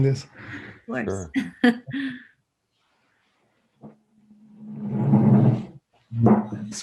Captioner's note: laughs